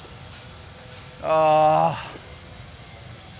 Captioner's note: groans